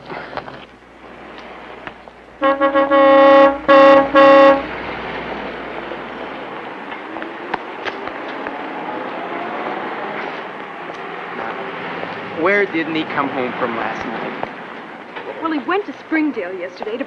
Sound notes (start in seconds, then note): 2.3 honking